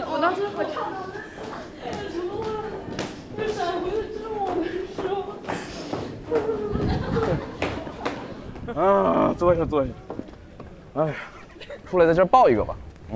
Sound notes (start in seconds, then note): 5.6 sobbing